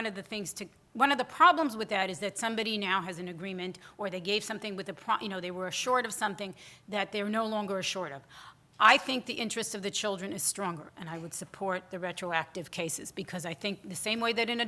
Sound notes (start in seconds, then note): none